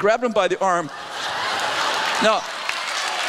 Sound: laughter

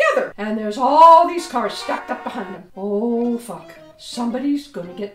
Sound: horns honking

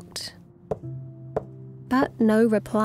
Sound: door thuds

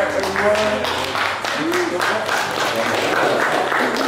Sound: crew applauding

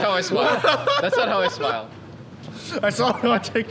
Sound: laughing

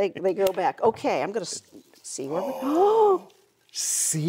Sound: gasps

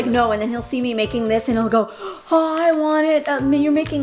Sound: gasp

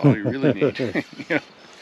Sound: chuckling

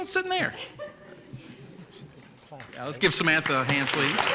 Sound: giggles

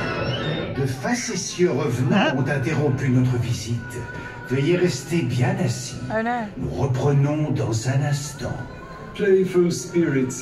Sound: in French then English

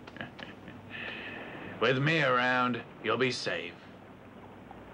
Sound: chuckles

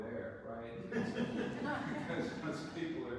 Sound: audience laughs

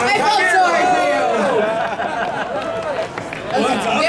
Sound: audience laughing

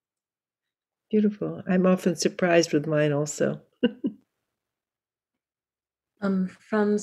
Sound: chuckles

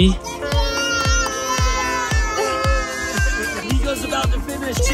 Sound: kids cheering

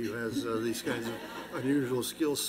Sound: laughter

